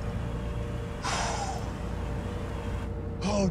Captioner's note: exhales sharply